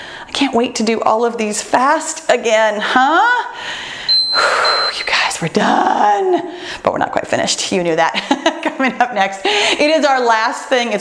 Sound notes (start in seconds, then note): 3.5 breathes deeply; 4.0 timer beeps